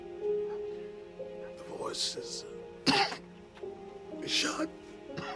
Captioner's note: coughing